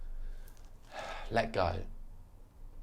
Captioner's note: sighs